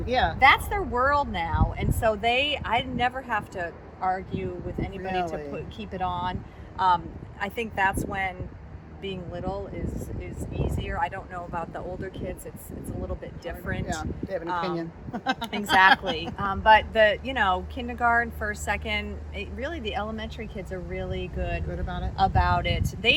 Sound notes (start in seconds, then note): 15.0 laughs